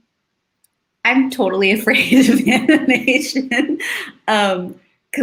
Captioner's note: laughs